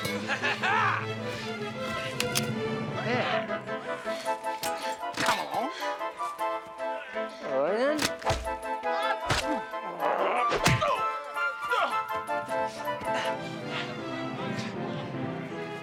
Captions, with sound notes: (Savage laughing) - Hear! Come along! - Oh yeah? (blows landing)